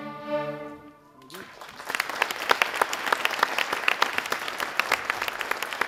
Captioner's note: audience applauding